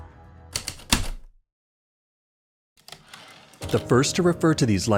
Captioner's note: heavy typewriter keystrokes, return slide